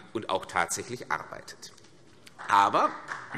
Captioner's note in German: Beifall CDU und BÜNDNIS 90/DIE GRÜNEN